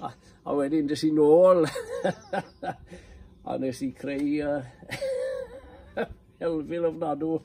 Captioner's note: laughs; laughs